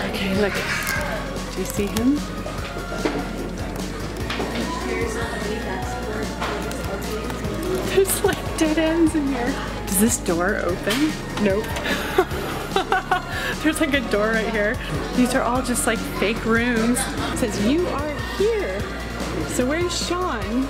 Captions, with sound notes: - Okay, look, do you see him? There's like dead ends in here. Does this door open? Nope. (laughs) There's like a door right here. These are all just like fake rooms. It says you are here, so where's Shawn?